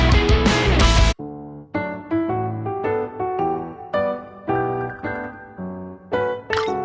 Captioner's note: system Mechanical Sound